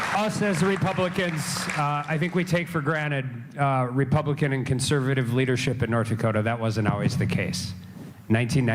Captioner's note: applause